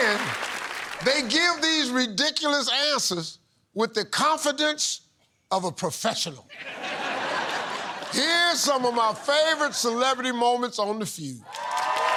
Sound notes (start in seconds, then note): 6.5 laughter